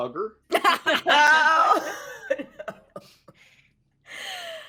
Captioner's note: everyone laughs